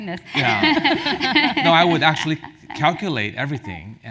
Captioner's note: laugh